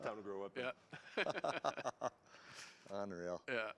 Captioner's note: laughter